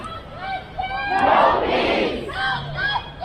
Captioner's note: crowd